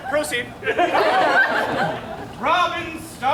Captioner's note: audience laughs